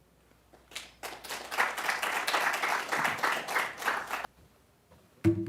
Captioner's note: applause